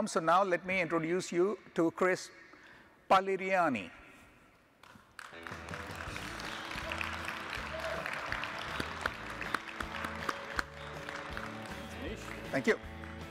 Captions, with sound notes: So now let me introduce you to Chris Pagliarini. (audience applauding) (upbeat music) - Manish. - Thank you.